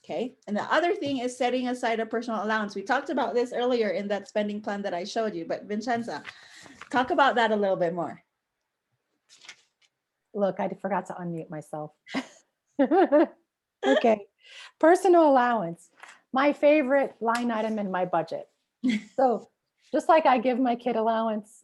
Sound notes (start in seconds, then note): 12.0 laughs